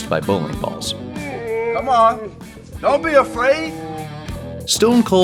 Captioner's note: confused grumbling